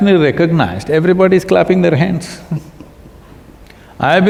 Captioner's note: Piyush Pandey laughs